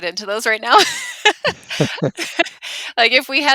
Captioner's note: laughs